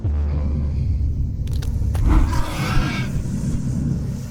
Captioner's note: low growls, screeches